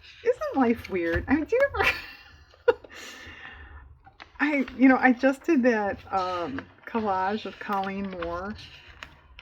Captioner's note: laughs